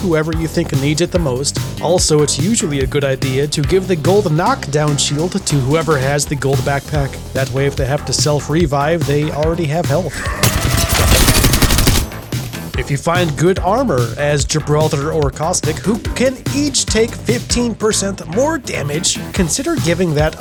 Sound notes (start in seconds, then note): 10.1 Revenant rage scream